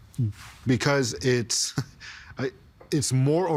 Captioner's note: chuckling